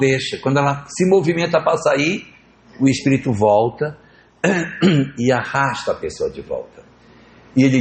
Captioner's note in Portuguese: limpando a garganta